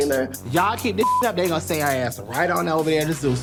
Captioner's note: beep